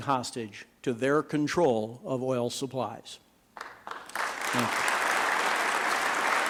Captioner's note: applause